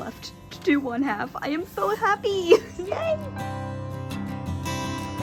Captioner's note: laughs